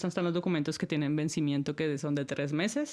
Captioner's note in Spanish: none